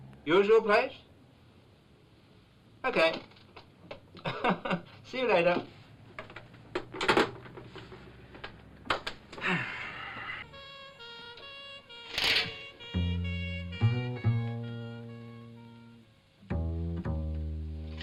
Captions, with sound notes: Usual place? Okay! (chuckling) See you later. (phone sets into receiver) (exuberant sigh) (siren wailing) (shades crackle) (siren wailing)